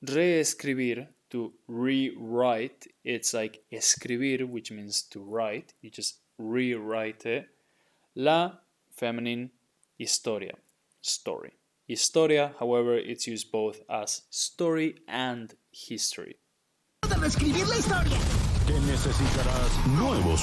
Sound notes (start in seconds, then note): 0.2 speaking in Spanish; 9.5 speaking in Spanish; 17.1 speaking in Spanish